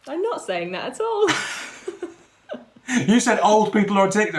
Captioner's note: laughing